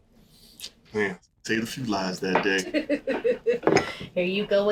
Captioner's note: laughing